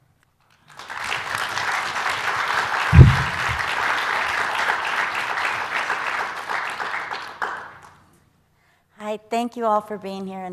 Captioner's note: applause